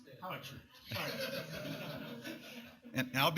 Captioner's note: laughter